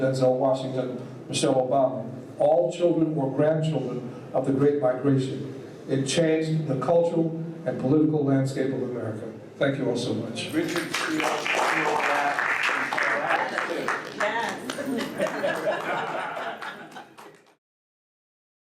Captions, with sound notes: Denzel Washington, Michelle Obama, all children or grandchildren of the Great Migration. It changed the cultural and politcial landscape of America." Thank you all so much. [Applause.]